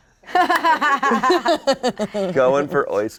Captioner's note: all laughing